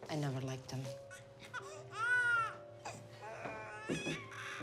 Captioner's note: baby cries